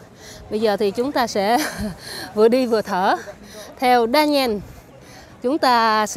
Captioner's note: gasping for air